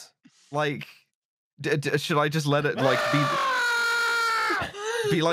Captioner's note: screams wildly